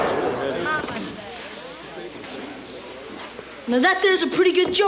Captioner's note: gun fires rapidly; patrons murmur